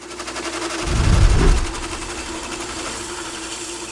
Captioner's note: machinery whirs